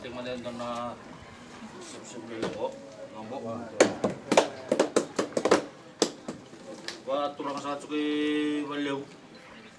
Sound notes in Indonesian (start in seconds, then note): 2.0 Kesepakatan - bertepuk tangan